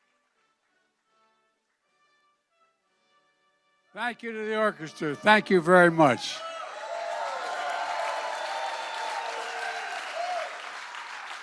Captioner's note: applause